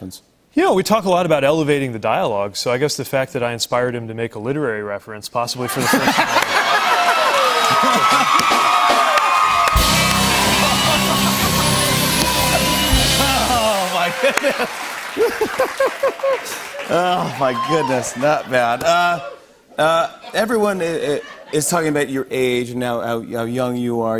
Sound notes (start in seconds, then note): 6.4 cheers and applause